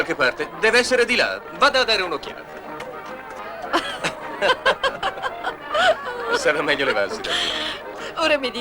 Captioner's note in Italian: Risate